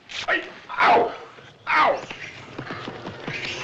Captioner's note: gasps